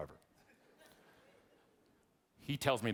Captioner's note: audience laughing